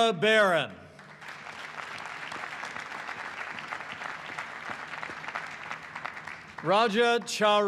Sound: applause

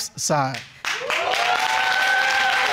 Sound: audience cheering

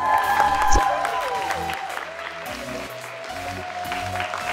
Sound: cheers and applause

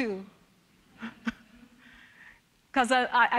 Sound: chuckling

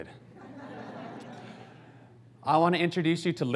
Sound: audience laughs

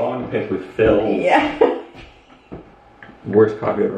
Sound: laughs

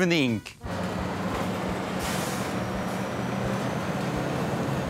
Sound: engine rumbling

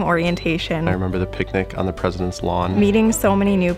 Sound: voiceover

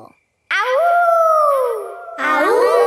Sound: howling; kids howling

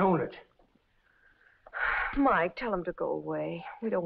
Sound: sighs

